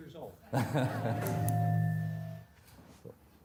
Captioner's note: laughing